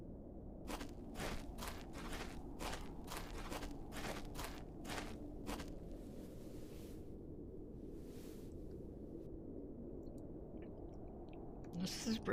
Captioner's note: two sets of footsteps, sitting, eating